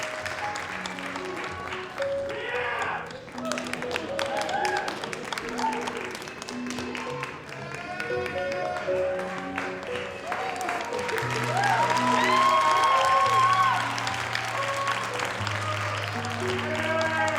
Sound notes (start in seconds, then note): 2.5 audience cheering; 10.4 audience applauding; 14.0 soft music continues